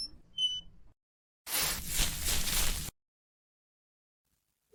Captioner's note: fishing pole squeaks; leaves rustle